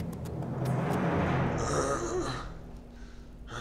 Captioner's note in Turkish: İnleme sesi